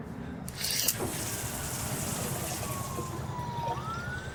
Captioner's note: water splashes